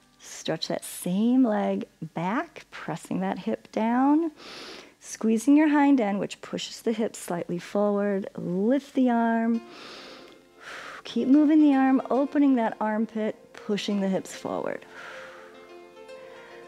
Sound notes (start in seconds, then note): 4.3 inhales; 9.6 inhales and exhales